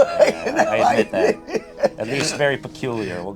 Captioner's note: laughs